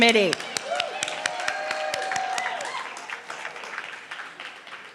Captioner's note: clapping and cheering